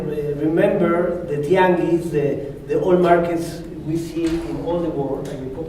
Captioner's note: spanish